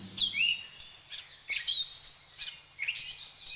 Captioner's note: birds chirping